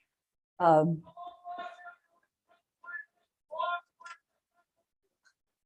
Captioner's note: background chatter